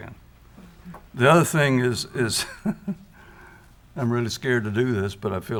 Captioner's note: chuckles